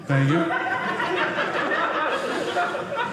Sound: audience laughing

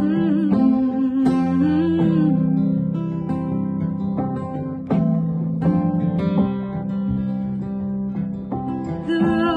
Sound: hums

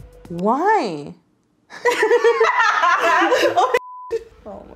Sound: laughing; beep

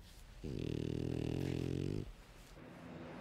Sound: Helga snores

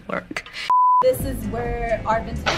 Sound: tv beeping

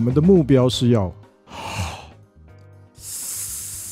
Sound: inhale quickly

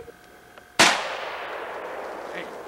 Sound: bang!

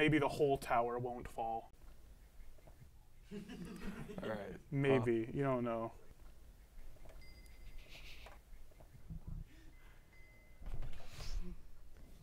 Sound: laughter

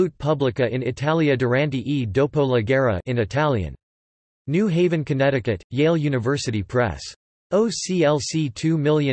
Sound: in Italian

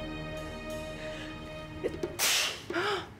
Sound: sneeze

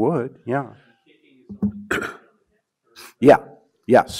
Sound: man speaks faintly

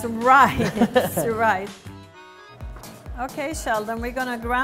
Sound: laughing

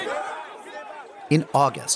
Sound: crowd noises

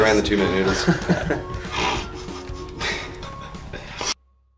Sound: all laugh

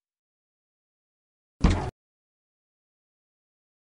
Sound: clunk

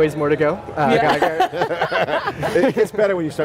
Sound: group laughs

